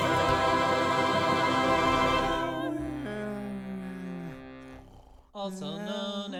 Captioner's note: snoring